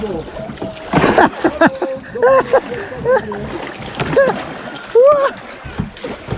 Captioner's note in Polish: śmiech